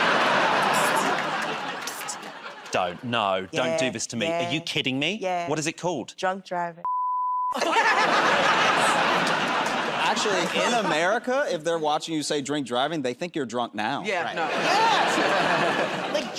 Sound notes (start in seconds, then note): 0.0 laughter and applause; 7.5 laughter and applause; 14.4 laughter